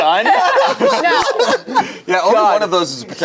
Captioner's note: laughs